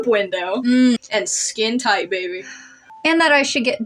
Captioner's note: sigh